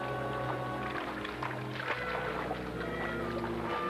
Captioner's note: water sloshing